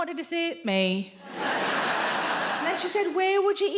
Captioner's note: audience laughing